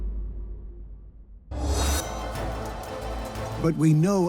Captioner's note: sound of metal